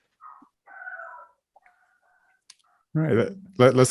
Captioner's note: dog barking